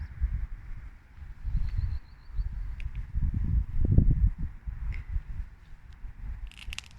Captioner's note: low traffic background noise